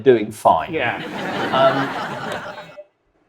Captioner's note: audience laughs